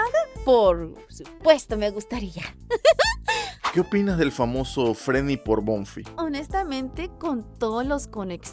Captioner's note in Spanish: risas